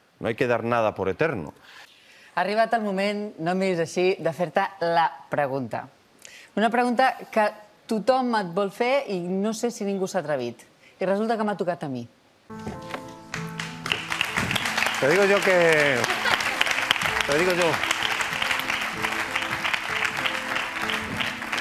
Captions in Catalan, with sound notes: No hay que dar nada por eterno. Ha arribat el moment, no em miris així, de fer-te la pregunta, una pregunta que tothom et vol fer i no sé si ningú s'hi ha atrevit i resulta que m'ha tocat a mi. (aplaudiments) Digo yo que...